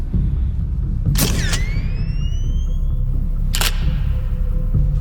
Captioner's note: camera snapping